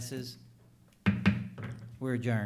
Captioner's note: gavel knocks